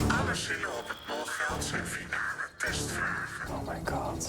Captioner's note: distorted voice